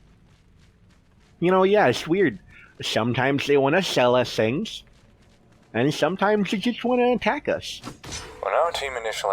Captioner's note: sword slash